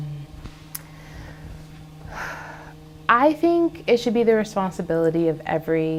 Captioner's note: sighs